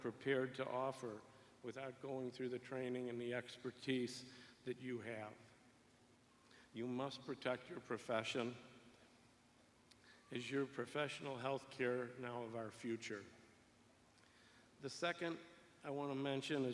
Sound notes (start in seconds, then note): none